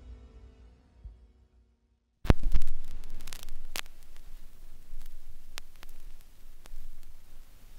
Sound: music fades; record needle falls and crackles

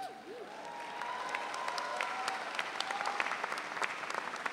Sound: audience cheering

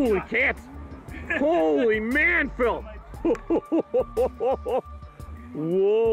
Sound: laugh

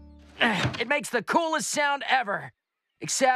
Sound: grunts

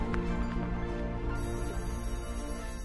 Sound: school bell rings

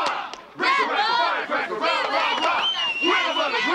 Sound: men cheering

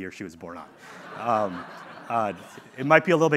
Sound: audience laughing

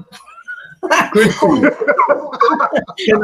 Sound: laughing

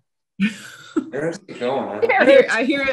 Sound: laughs

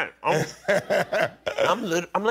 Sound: laughs

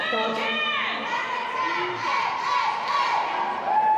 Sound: Team Canada cheering

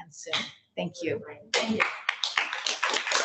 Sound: applause

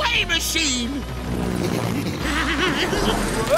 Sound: laughing

